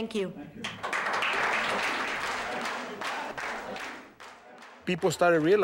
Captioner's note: applause